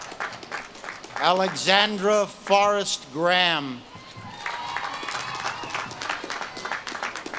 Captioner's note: audience claps and cheers